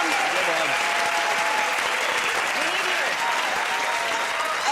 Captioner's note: cheers and applause